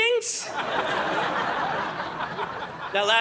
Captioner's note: audience laughing